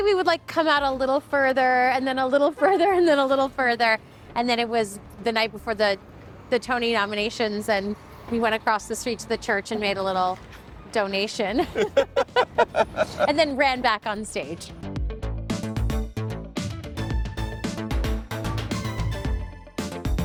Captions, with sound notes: we would like come out a little further, and then a little further, (laughing) and then a little further. And then it was the night before the Tony nominations, and we went across the street to the church, and made a little donation, (laughing) and then ran back on stage! (bright upbeat music)